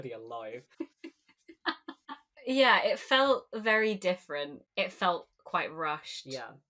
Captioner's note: laughing